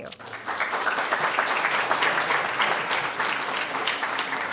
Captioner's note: audience applauding